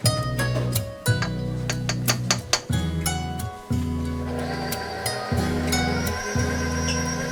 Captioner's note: mixer whirring; spatula thudding